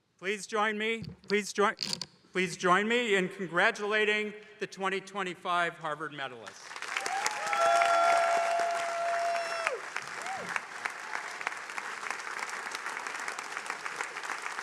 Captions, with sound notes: - Please join me, please join... Please join me in congratulating the 2025 Harvard medalist. - Whoo! (attendees cheering)